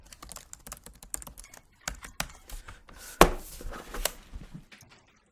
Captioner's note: typing; closing computer